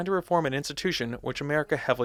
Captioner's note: none